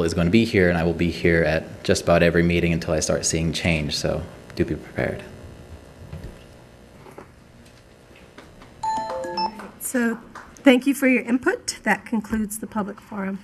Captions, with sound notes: is going to be here, and I will be here at just about every meeting until I start seeing change. So do be prepared. (musical tone) - [Woman's Voice] So, thank you for your input. That concludes the public forum